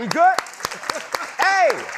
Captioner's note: applause